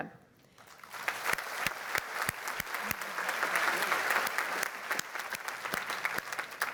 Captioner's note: applause